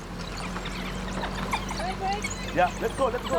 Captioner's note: speaks softly